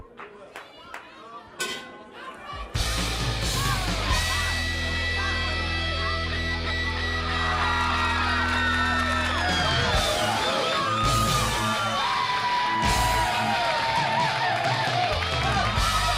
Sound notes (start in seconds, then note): 0.1 crowd cheering; 2.2 bell ringing; 4.0 crowd cheering